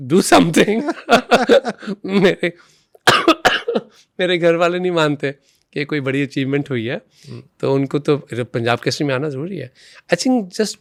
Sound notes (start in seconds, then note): 0.0 coughs; 3.1 laughs